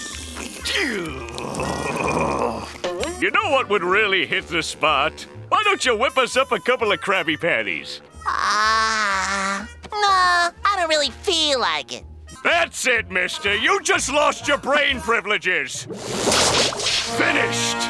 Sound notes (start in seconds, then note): 0.4 groaning; 8.3 yawning